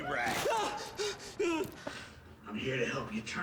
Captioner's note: Cricket gasps